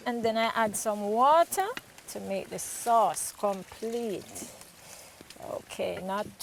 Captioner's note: water pouring